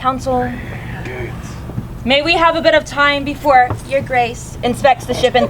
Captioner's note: mockingly